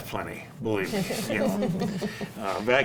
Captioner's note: panel laughs